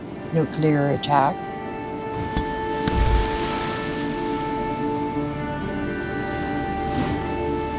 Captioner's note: waves crashing